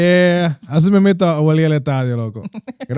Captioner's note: speaking Spanish